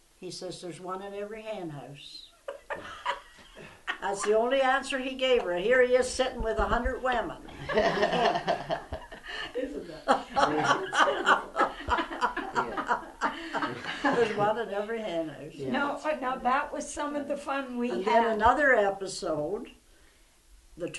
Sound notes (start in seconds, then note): 2.4 laughter; 7.5 laughter